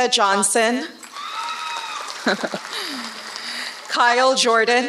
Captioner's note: applause